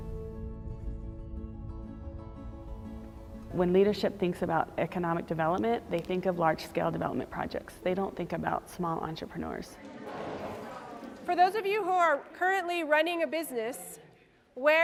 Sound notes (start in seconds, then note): 0.0 calm guitar music; 9.8 crowd murmuring